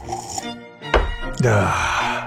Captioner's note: thump